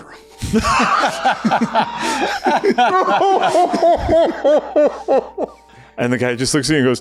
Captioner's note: laughs